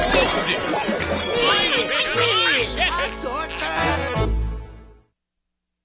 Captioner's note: squabbling